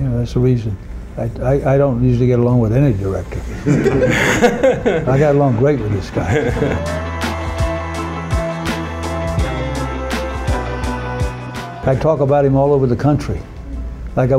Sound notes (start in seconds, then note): 3.5 men laughing; 5.9 upbeat electronic music